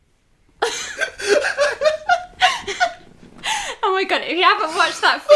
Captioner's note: laughter